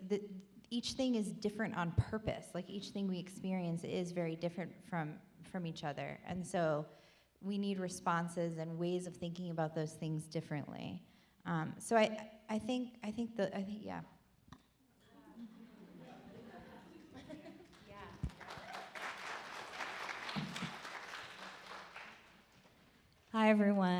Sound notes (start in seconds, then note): 14.0 laughing; 14.0 audience applaud